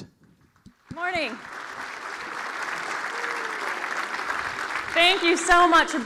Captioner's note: applause